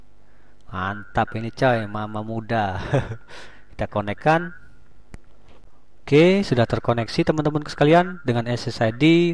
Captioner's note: smile.. heheheh